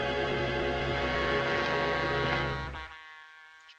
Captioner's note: train whistle blows